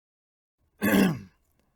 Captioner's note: clears throat